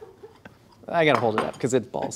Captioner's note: laughs